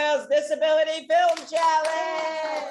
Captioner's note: audience cheers